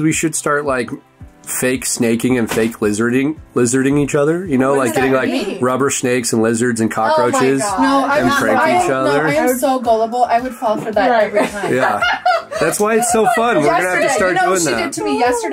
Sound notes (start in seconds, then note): 10.8 laughs